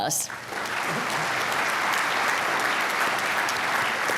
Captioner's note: applause